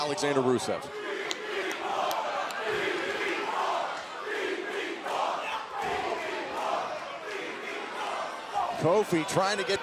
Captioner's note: crowd cheering